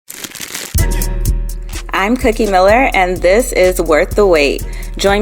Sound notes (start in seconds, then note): 0.0 crackling; 0.7 hiphop music